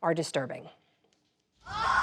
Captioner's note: screaming